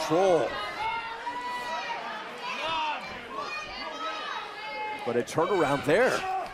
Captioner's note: crowd chatter